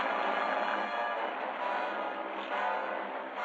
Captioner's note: engine stops